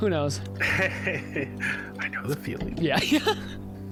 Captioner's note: laughs